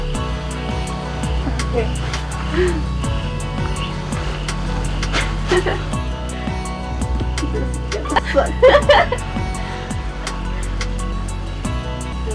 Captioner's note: e -- cricket noises